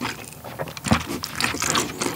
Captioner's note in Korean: 꿀꺽